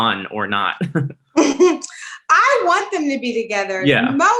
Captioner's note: laughs